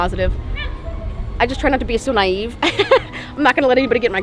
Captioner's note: chuckles